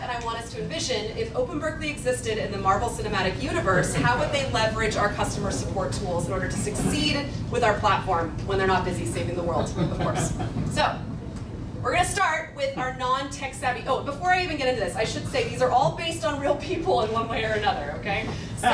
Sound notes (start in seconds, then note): 9.5 laughing